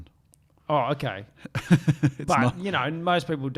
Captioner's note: laughing